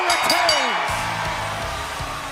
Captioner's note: bell ringing